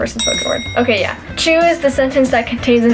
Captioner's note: bell ring